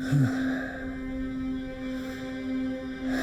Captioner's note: Adrian sighs